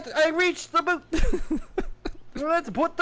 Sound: laughter

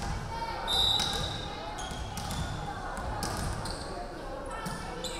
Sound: referee whistling

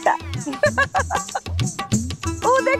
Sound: laughing

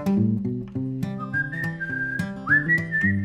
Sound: whistling

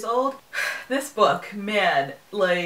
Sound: sigh

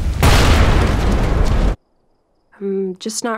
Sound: flames whooshing; explosion crashing

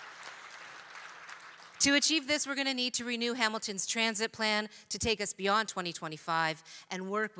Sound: applause

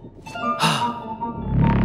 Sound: gasps

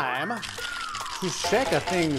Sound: whistling

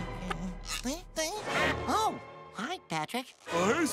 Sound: grumbling

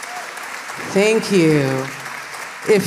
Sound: applause

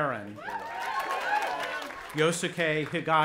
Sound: audience applauding and cheering

